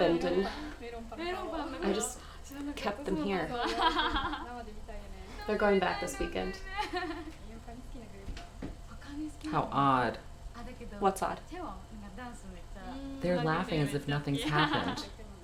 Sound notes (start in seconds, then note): 3.2 female laughs; 3.7 female chatters indistinctly